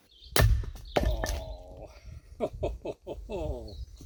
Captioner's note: wood splitting; laughs at his chopping prowess